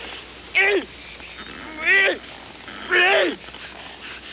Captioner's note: Bruto screams; Bruto grunts wildly